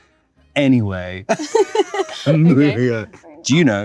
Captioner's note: Zendaya laughs